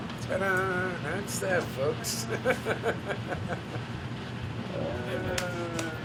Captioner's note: chuckles